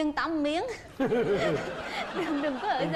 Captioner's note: laugh